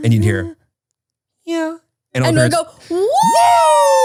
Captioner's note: none